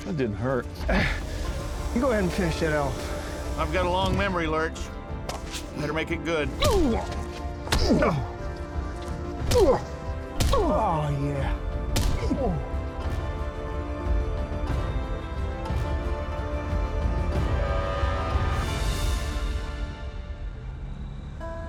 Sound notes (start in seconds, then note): 7.6 groaning; 9.4 punching; 11.5 groaning